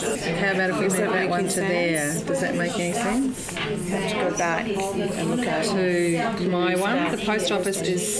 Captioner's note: audience chatter